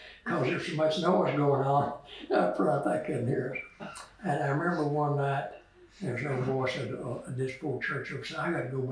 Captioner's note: laughter